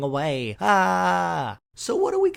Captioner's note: screams